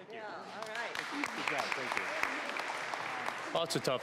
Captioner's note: applause